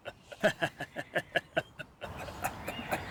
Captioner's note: extremely terrifying demonic laughter